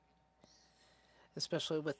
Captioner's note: speaking French